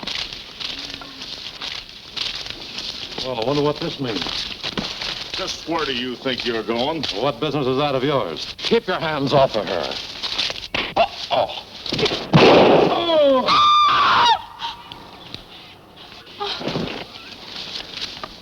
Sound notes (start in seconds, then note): 11.9 gun shooting; 12.8 Diana screaming